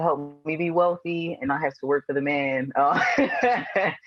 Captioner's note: laughs